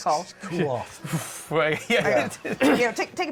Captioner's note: deep breath